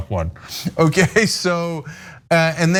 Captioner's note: laugh